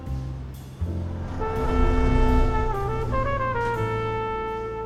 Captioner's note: spaceship whooshes